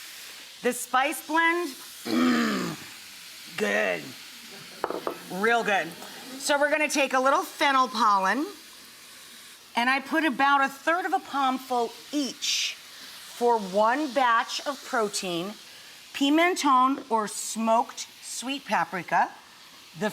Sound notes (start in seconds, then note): 4.4 audience chuckles